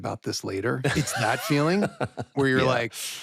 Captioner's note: laughs